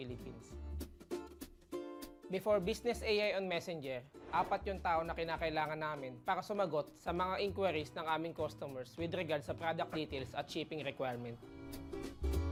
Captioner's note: speaking another language